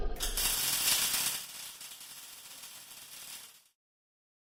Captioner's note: electricity arcing